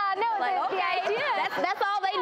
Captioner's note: laughing